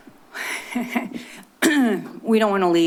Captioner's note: chuckling; clears throat